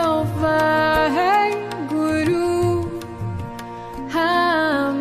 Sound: chanting in foreign language

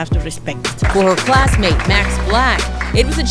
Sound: crowd claps

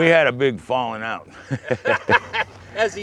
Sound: laugher

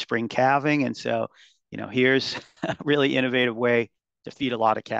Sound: chuckles

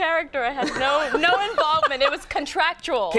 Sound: Conan laughing

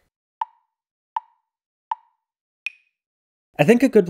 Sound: tick, tick, tick, tick, tock

